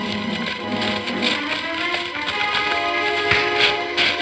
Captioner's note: dramatic orchestral music; rustling; smacking